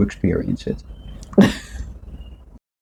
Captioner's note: laughs